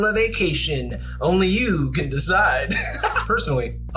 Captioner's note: laughs